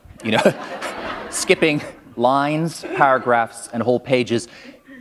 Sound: laughter

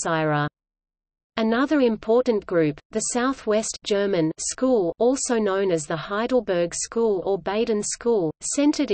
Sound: German

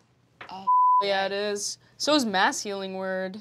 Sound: beep

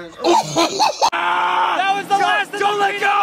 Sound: yelling, grunting; choked out laughter

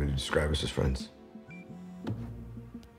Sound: phone beeps

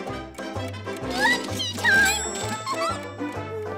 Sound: giggles

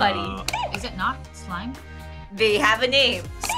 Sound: buzzer squeaks

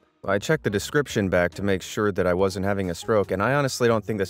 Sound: none

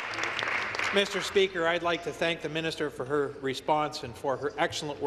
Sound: applause

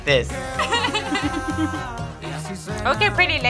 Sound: both laugh

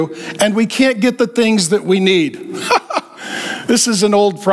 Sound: chuckling

